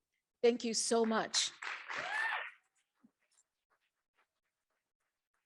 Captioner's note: audience applauding